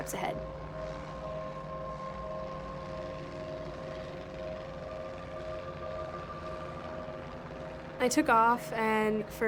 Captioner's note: airplane rumbles